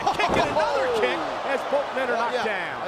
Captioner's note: laughs